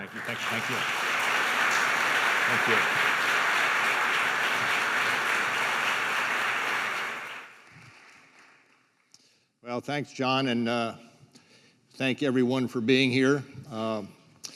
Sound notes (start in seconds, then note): 1.7 applause